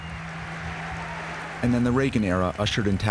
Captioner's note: cheering